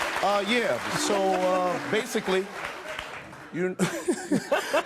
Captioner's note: laughs